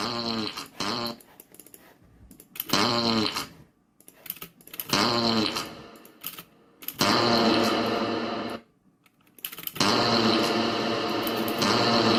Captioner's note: fart noises growing increasingly loud and echoey